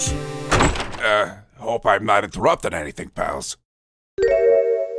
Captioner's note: door slams open!